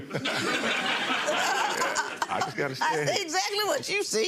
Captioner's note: audience laughs; Lynn laughs